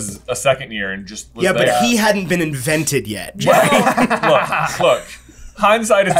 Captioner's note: laughter